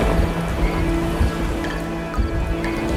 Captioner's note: waves whooshing; crickets chirping; water droplets dripping